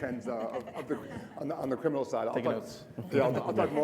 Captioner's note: audience laughing